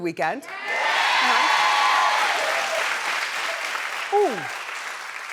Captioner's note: cheering and applauding